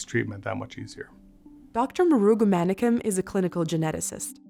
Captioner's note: voiceover